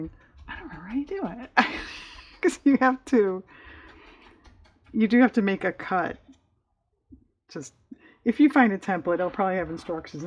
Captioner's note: laughs